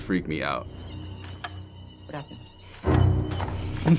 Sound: slides click rhythmically; scary music; laughing anxiously

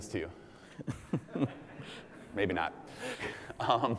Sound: laugh

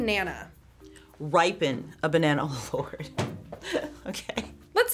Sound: laughs

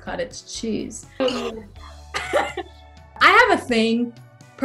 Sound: laughing

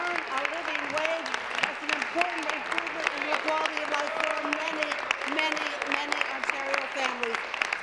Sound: applause

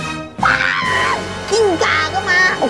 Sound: scream

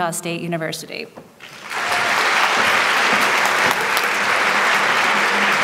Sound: applause

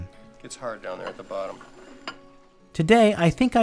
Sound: plates clinking on counter

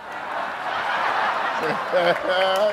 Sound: laughter

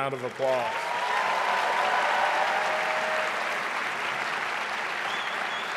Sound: audience cheering and applauding

